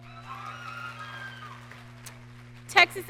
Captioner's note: audience cheering